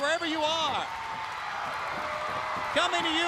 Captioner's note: crowd cheering